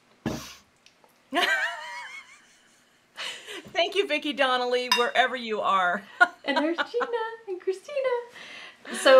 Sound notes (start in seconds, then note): 1.9 laughing